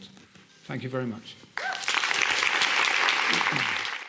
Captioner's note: applause